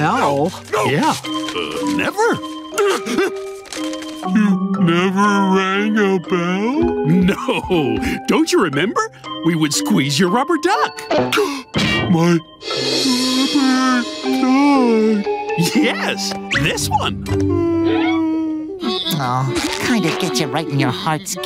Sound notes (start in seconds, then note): 11.4 gasping